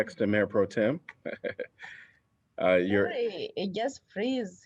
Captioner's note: laughter